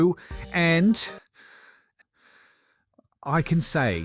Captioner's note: deep breaths